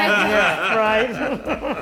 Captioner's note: laughs Loudly